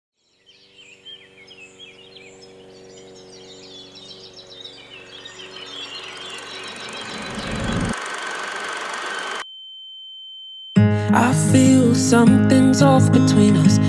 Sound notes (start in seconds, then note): 0.1 birdsong; 5.4 film reel whirring; 8.9 high pitched tone